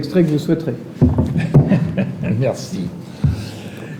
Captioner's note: laughter